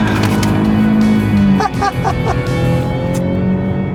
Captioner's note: laughter